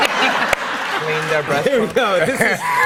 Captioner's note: laughter